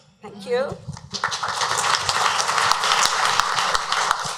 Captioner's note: clapping